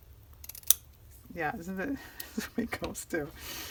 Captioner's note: laughs